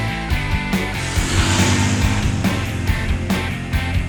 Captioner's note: motorcycle revving over music